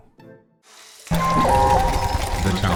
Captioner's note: dee-bloop